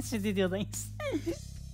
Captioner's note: laughs